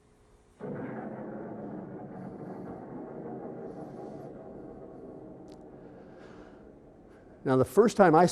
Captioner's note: rumbling, exploding